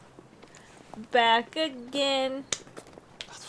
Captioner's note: clap